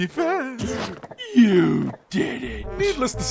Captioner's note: gasps